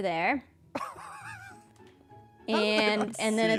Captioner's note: laughs